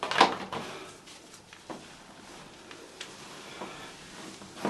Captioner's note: person breathing